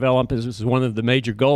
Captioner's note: none